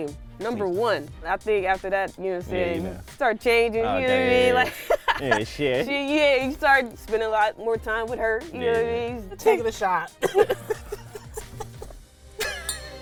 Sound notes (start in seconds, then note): 4.6 both laughing; 10.1 both laughing